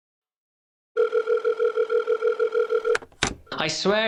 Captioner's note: phone ringing